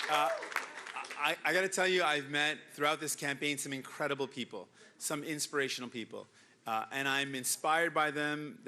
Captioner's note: cheering and Applause